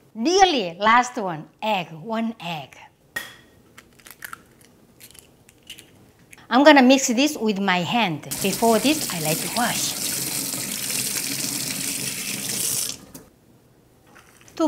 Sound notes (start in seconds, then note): 3.7 crack; 10.3 running water